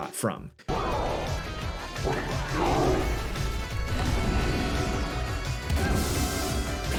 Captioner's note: upbeat music; gorilla grunting